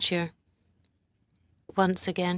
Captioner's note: speaking French